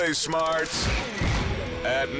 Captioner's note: countdown thuds